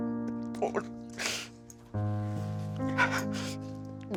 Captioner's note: sniffling